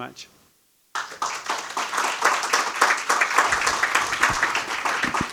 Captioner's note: audience clapping